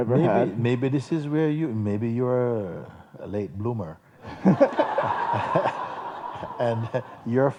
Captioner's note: laughter